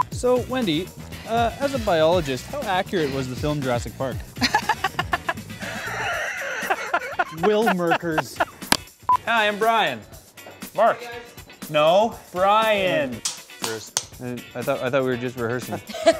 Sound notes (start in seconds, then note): 4.4 laughs; 8.5 laughter